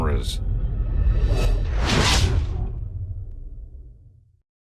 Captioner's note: whooshes and bang